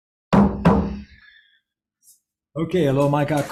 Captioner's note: gavel banging